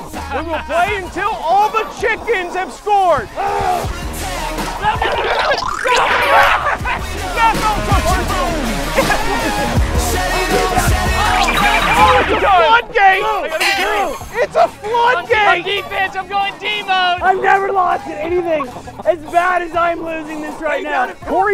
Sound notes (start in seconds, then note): 3.4 groans; 10.2 yelling